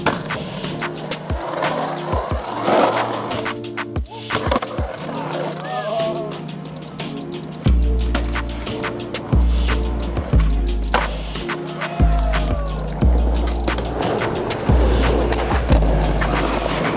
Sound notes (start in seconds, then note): 11.5 crowd cheers